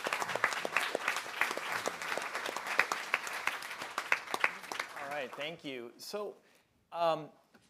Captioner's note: applause